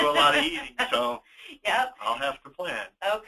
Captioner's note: laughing